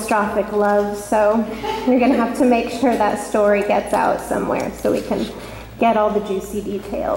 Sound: laughter

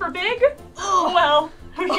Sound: grunts; laughs

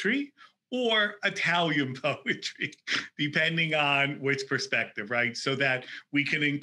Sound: laughing

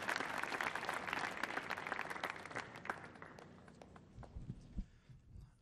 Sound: applause

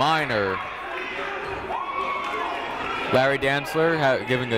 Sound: cheering

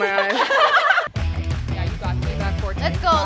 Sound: laughter

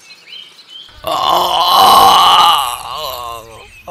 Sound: groans

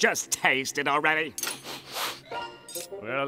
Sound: sniffing

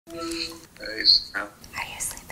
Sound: phone rings

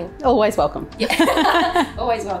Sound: laughing

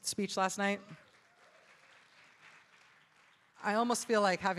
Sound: audience applauding

